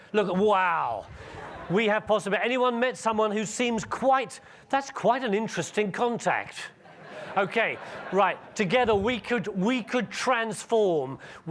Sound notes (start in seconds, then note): 6.7 audience laughing